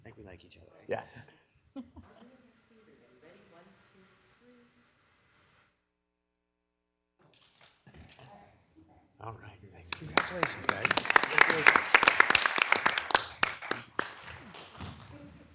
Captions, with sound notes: - I think we like each other. - Yeah. - All right, congratulations guys. (audience applauding)